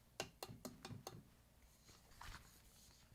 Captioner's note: tapping